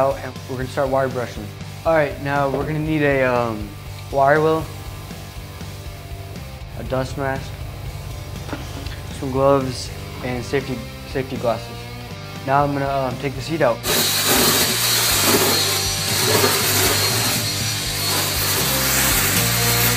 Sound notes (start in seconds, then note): 13.8 power tool grinding